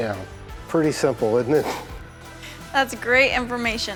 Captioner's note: laughs